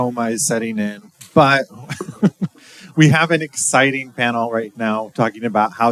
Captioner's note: laughing